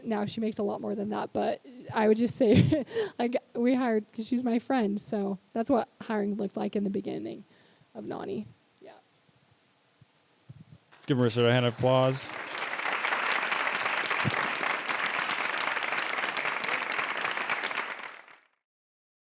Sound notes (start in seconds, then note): 10.9 applause